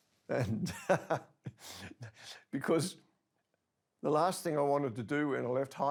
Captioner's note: softly laughs